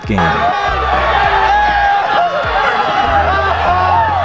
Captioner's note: people cheering